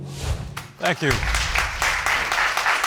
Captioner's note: applause